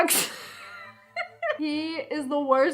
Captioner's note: laughs